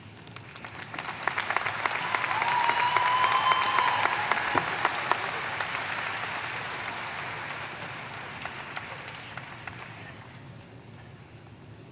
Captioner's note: applause